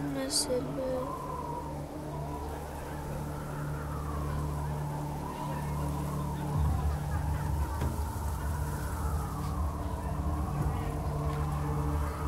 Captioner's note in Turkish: Rüzgar Sesi